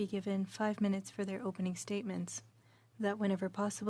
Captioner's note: speaking french